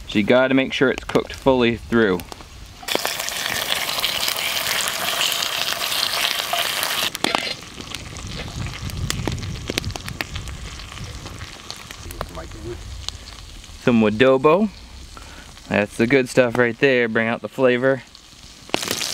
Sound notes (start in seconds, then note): 3.0 grease splattering; 18.6 grease splattering